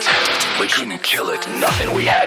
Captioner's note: Static; Static